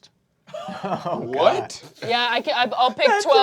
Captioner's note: cast laughing